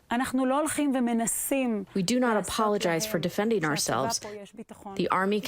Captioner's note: through translator